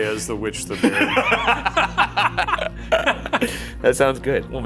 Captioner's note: laughing